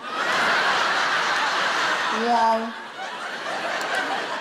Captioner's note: audience laughing